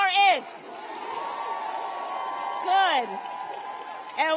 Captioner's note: applause